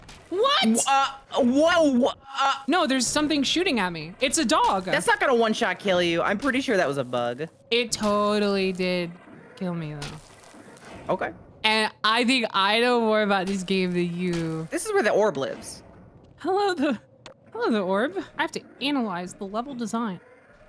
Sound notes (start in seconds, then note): 11.8 baby voice